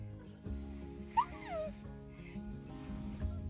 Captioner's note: puppy whimpering